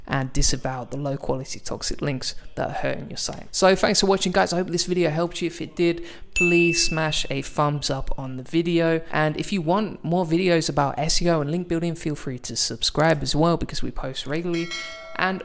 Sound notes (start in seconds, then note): 6.3 notification bell rings; 13.1 mouse clicking; 14.5 bell dings